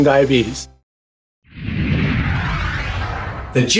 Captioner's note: screen whooshing